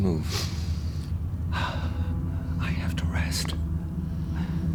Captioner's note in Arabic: تنهدات